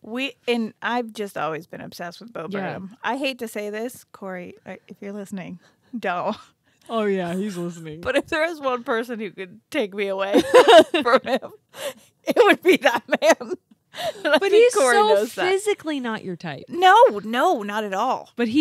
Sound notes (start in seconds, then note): 13.9 laughs